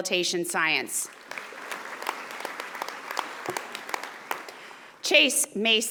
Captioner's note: audience applauding